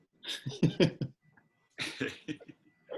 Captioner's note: chuckles